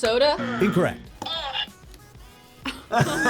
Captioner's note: buzzer moans; both laugh